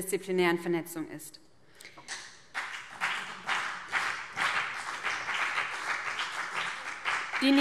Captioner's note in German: Beifall BÜNDNIS 90/DIE GRÜNEN und CDU